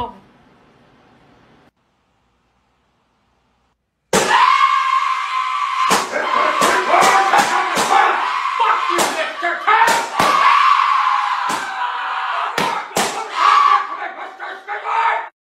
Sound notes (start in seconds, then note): 4.1 Sonic screaming; 10.4 Sonic and Vortex screaming; 11.6 Vortex screaming